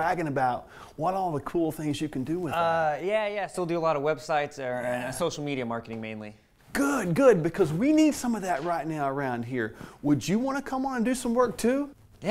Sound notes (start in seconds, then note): none